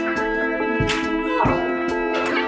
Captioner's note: smack